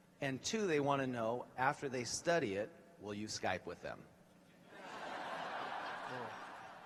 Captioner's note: laughter